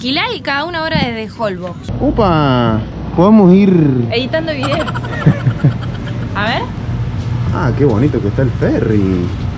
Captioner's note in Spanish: risas